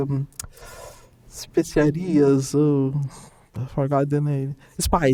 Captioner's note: speaking in Portuguese